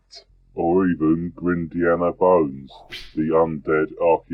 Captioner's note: whip crack